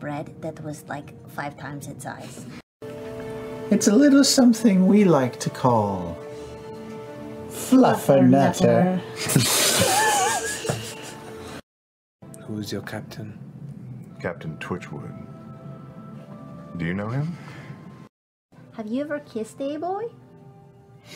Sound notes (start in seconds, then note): 9.2 wheezing